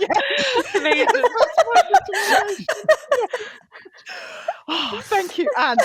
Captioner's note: laughter